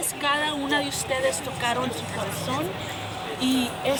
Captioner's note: speaking Spanish